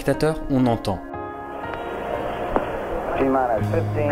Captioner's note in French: Grésillements